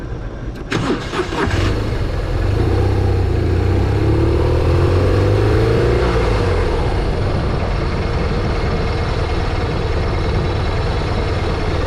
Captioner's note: turning motor on